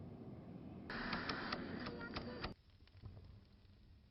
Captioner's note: clicking